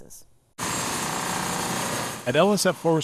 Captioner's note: machine sounds